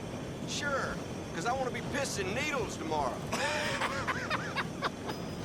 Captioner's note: laughs